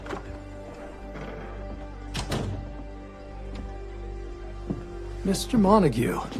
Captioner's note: door opens, closes